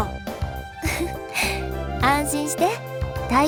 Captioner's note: giggle